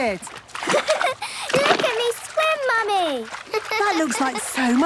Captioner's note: giggles